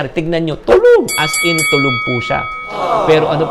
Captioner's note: bell